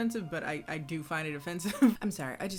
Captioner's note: laughs